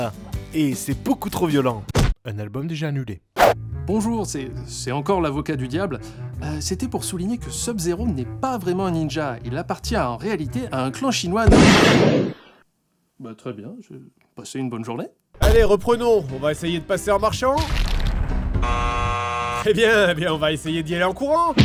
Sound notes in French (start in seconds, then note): 11.5 pan !!!; 18.6 bruit de buzzer